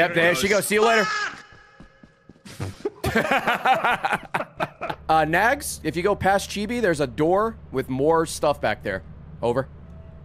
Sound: laughs

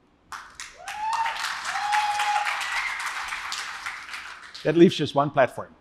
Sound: applause; cheering

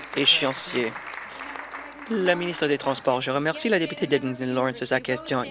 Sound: applause

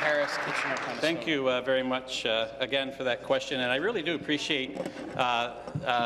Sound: applause

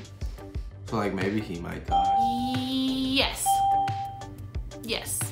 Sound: hesitant

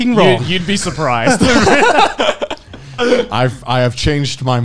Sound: men laughing

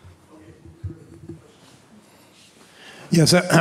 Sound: speaking off mic

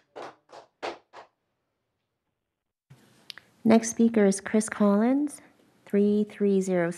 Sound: applause

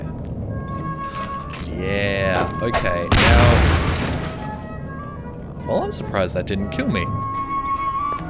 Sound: super loud boom

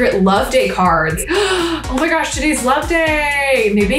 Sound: gasps

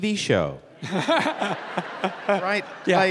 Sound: Bob and audience laughing

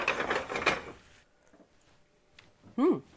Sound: pan rattling on stove

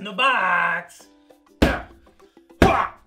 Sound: thump

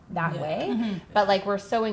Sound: women agreeing

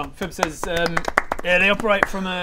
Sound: well-earned applause

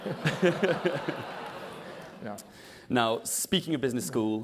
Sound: laugh

